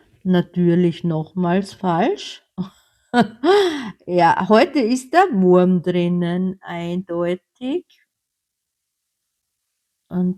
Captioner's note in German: gelächter